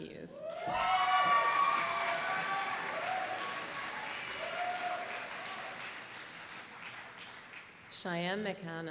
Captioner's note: applause